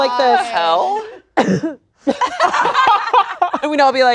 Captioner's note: coughs; everyone laughing